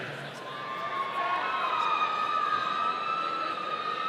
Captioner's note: audience cheering